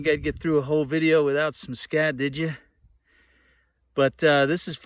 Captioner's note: wind blowing